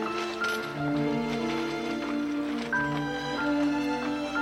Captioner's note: wagon rattling